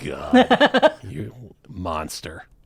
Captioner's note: laughing